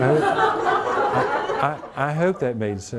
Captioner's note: audience laughing